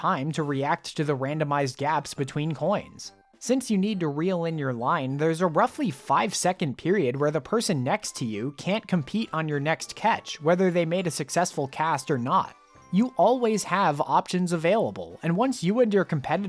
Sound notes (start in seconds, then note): none